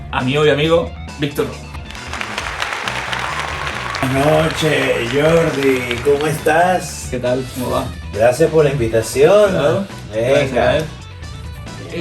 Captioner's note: applause